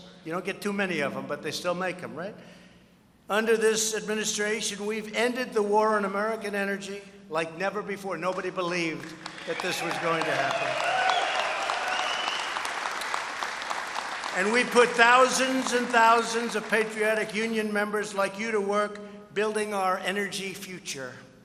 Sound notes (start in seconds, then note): 11.0 applause